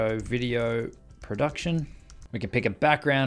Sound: typing

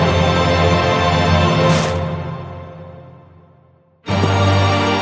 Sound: wood splinters

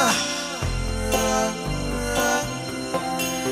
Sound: vocalizing

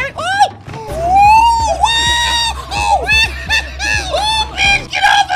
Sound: screams

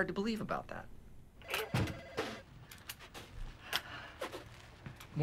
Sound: telephone rings

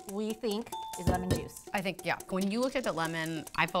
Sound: ding

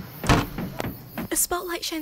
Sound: doors slam open

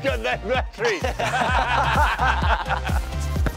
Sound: laughter

